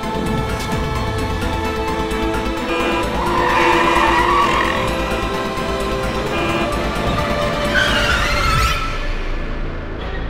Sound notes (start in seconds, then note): 0.1 dramatic music; 2.6 tyres screeching